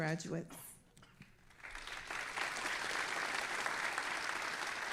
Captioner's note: all applauding